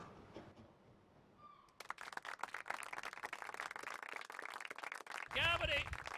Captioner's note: applause